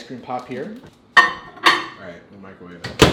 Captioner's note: plate clanging